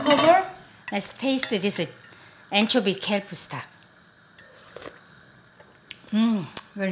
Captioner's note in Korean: 후루룩